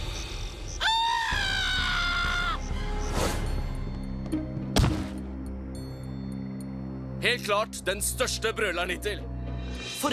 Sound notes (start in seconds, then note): 0.8 screaming